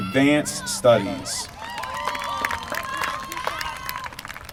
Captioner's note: applause